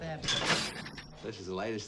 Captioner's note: trap clanks